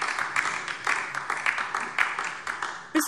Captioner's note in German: Beifall DIE LINKE